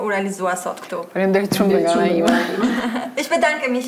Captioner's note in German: Klientin spricht Albanisch